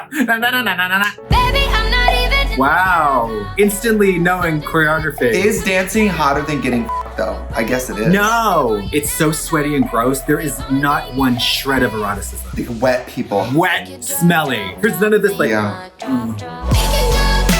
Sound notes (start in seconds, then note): 6.8 beep